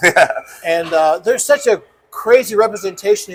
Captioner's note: laughs